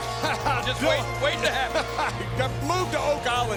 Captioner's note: JBL laughs